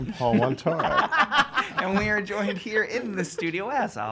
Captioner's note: laughter